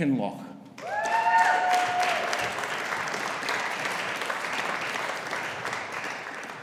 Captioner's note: audience applauding; audience cheering